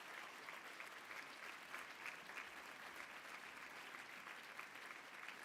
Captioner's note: applause